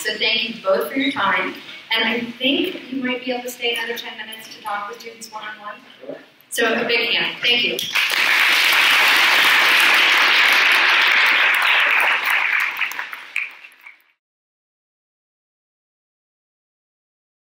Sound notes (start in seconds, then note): 7.8 audience applauds